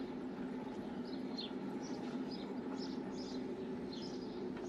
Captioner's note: birds chirping